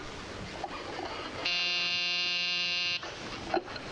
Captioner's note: doorbell buzzes